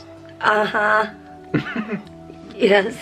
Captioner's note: chuckles